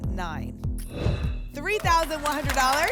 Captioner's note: whoosh